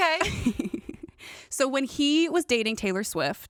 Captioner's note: laughs